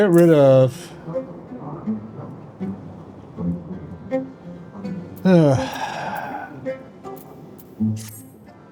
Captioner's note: sighs